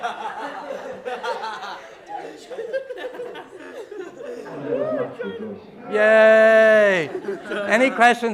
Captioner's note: laughing